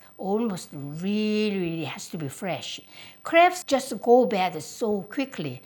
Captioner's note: none